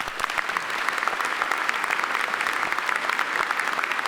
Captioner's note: audience applauds